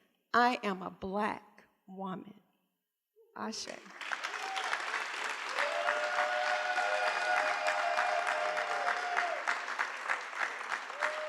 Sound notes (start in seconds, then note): 3.9 cheering